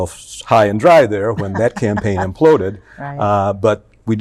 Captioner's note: laughs